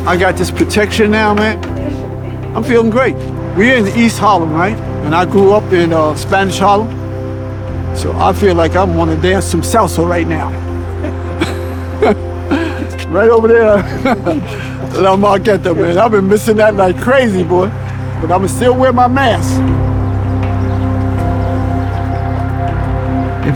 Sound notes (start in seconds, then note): 15.1 foreign language; 20.8 uplifting atmospheric music